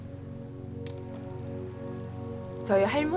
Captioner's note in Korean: 영사기 희미하게 돌아가는 소리